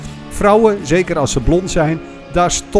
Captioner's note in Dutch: Voiceover